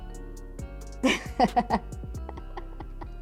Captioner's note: laughs